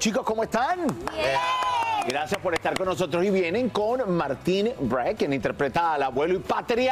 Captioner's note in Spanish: gritos